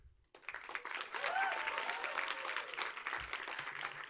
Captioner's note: audience applauds